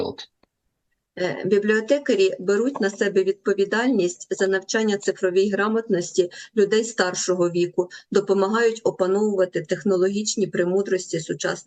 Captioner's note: foreign language